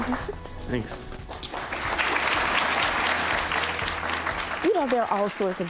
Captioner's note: applause